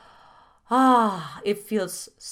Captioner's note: exhales loudly